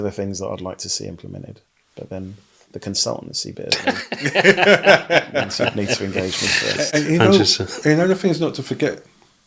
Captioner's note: laughing